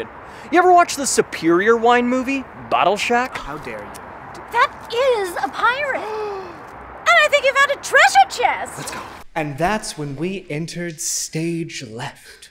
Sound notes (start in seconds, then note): 5.8 Eugene gasps